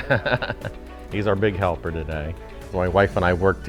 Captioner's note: laughs